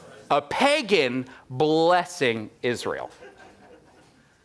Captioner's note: crown murmurs response